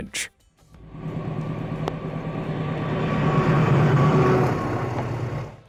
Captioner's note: train engine revving